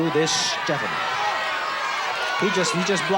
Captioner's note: crowd cheers